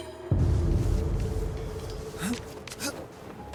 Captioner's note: grunting